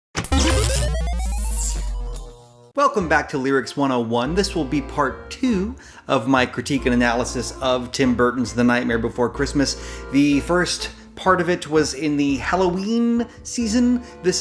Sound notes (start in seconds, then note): 0.2 electric zapping; 0.2 electronic trilling